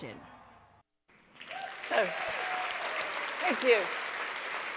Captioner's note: applause